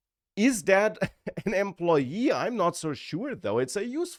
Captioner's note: laughs